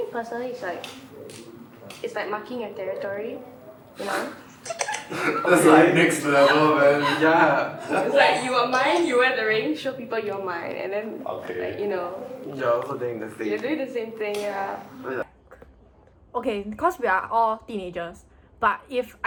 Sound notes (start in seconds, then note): 4.3 laughs